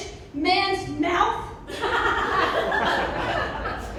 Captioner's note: laughter